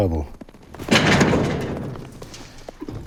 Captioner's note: gate rattles